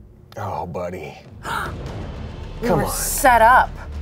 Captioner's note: gasps